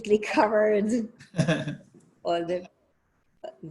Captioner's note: laughing